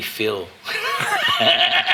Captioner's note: laughing